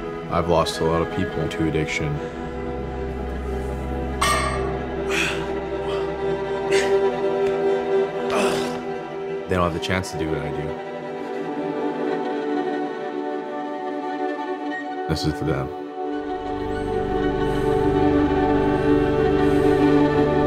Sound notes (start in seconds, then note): 0.0 dramatic ethereal music; 2.9 music turns dark; 4.2 weights clanking; 4.5 exhaling; 8.3 grunting; 16.8 dramatic ethereal music